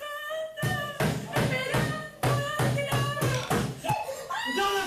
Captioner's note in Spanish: sollozos; golpes